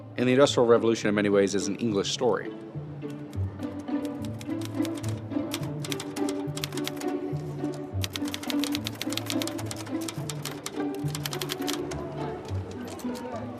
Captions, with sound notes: and the Industrial Revolution in many ways is an English story. [typewriter clacking]